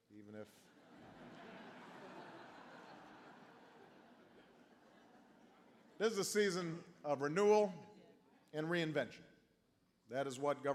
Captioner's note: laughter